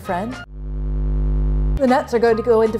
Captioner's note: electronic buzzing